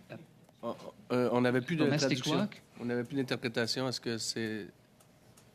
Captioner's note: speaking French